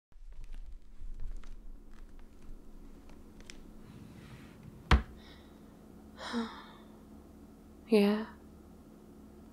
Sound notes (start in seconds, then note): 0.2 footsteps; 3.8 cupboard closing; 6.1 sighs